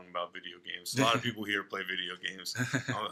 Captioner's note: laughter